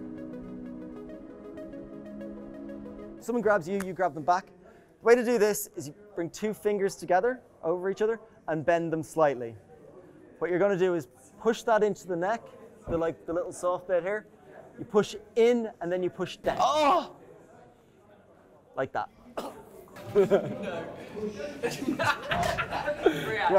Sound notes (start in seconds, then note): 0.0 soft music; 16.7 groans; 19.3 coughing; 19.7 laughter